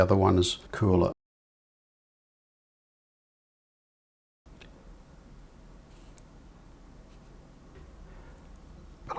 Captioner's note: silence